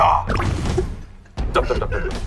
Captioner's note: the original writer can't stop laughing